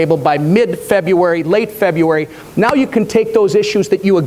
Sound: none

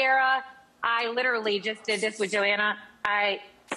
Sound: hairspray sprays

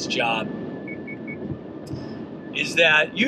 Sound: car beeping

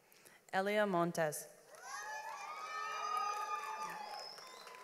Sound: audience applauds

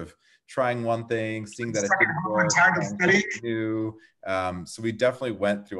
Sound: crackling drowns out

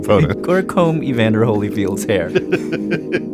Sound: laughs; laughs

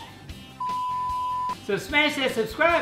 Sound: beep

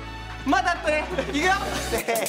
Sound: haha

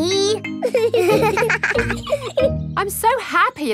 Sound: both laughing

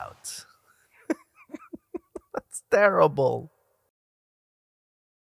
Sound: laughs

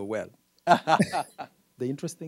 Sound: laughing

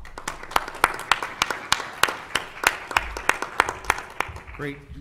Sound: applause

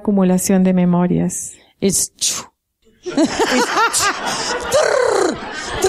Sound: laughter

